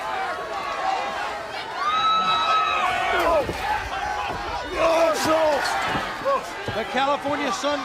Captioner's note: crowd chatter